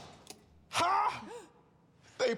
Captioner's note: gasps